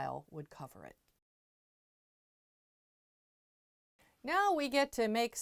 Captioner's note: no Sound Present